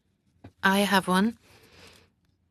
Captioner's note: speaking French